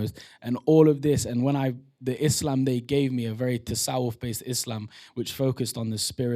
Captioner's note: non-english